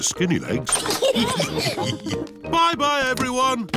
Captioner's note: all laugh